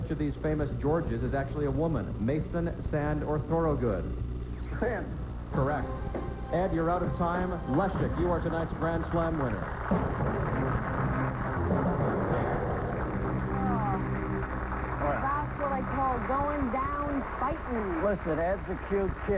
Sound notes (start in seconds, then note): 11.2 applause